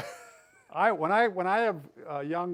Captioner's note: laughs